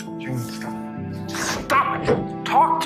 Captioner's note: shouting